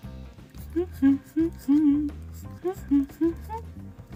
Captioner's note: humming; more humming